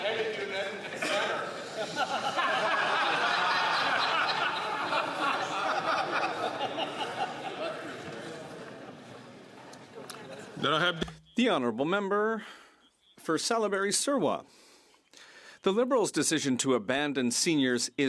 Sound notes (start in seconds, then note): 5.4 some Applause